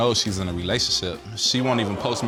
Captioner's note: audience gasping